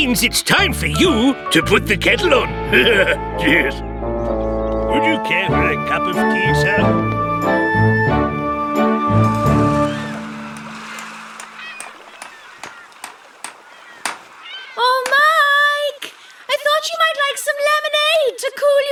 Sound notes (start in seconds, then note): 2.2 laughs; 11.9 hammer Tapping